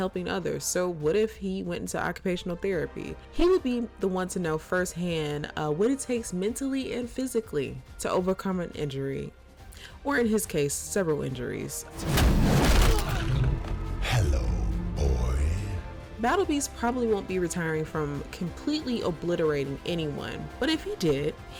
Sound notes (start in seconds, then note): 12.0 fist thuds; 12.4 Invincible grunts